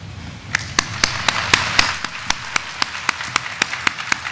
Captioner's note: audience applauding